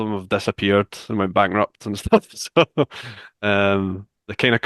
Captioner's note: laughs